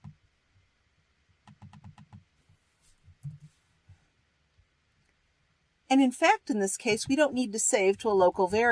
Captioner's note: typing